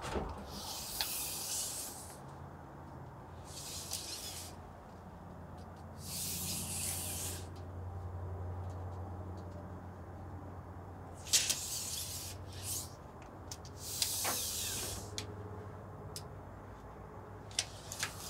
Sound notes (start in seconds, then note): 1.9 tape measure rattles